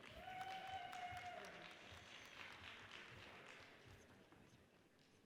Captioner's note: audience cheers and applauds